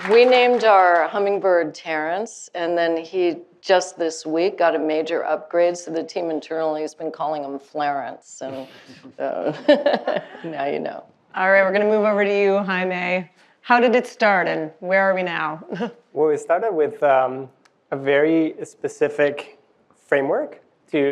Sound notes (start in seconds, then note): 9.5 chuckling